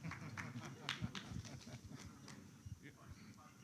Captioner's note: laughter